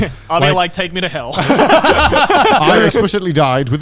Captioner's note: everyone laughs